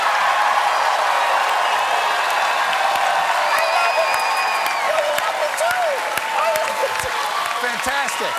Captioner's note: cheers and applause